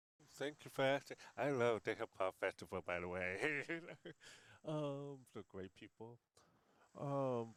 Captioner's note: laughs